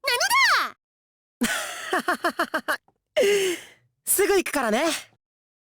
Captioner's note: laugh